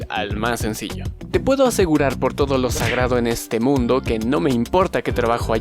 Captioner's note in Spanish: sonido de golpe